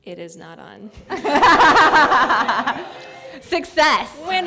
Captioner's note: laughter